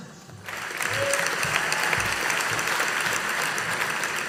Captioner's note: audience applauding